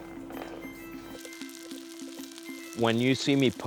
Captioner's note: food sizzling